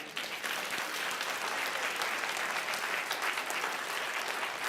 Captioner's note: audience applauding